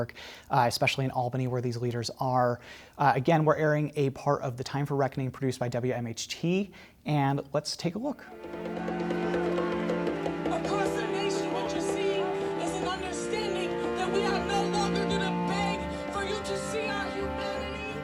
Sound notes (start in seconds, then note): 8.5 somber music; 8.7 people shouting